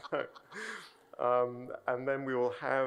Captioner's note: chuckles